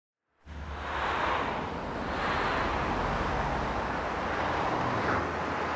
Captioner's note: traffic whooshing